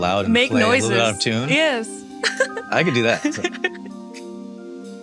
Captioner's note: chuckles